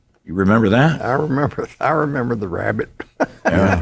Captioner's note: laughs